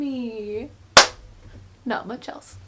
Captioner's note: claps